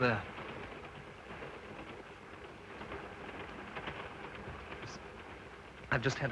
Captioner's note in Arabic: صوت خشخشة القطار